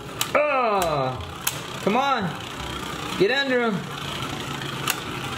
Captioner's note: groans